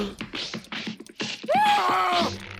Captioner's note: screams